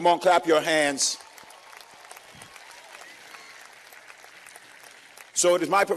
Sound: cheers and applause

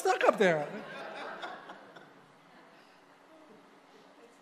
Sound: congregation laughing

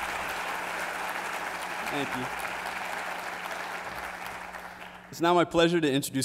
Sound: applause

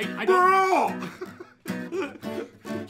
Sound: laughter

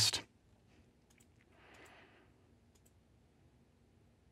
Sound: mouse clicking

